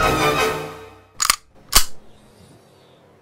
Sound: gun cocks . . . more dramatically this time

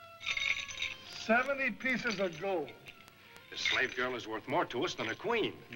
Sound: coins Jingling

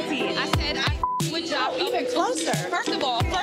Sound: beep

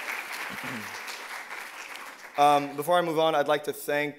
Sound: applause and cheers

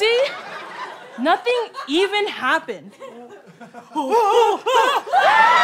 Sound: screaming

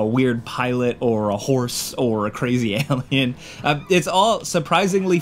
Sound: chuckling

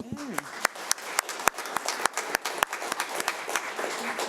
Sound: audience applauding

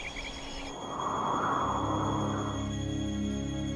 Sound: wind blowing

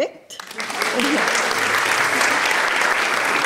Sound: applause

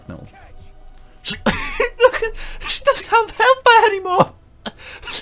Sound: wheeze

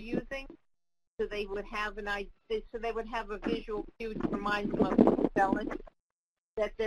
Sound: audio interference

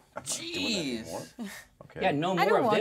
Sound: speaker chuckles

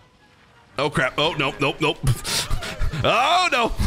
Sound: laughs

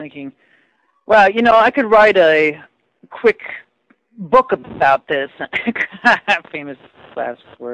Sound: laughs

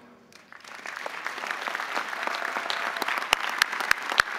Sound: audience applauding

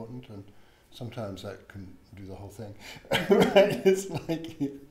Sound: laughs

